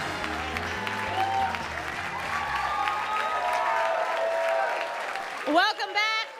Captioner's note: cheers and applause